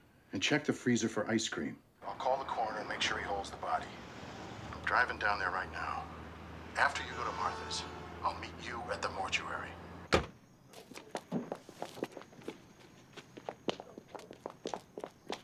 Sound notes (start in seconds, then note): 9.7 car door closes